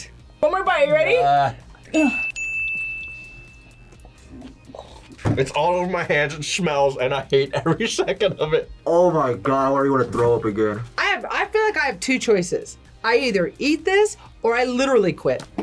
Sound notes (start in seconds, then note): 2.0 bell rings